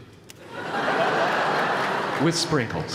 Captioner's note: laughter